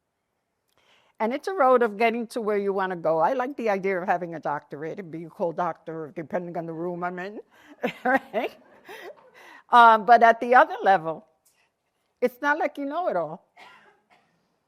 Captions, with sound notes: It's a road of getting to where you want to go. I like the idea of having a doctorate, be called doctor depending on the room I'm in. [LAUGHTER] But at the other level, it's not like you know it all.